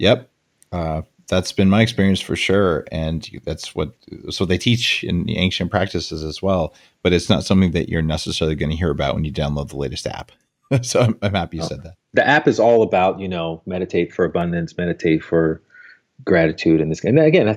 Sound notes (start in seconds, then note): 10.8 laughs